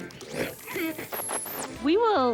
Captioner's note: static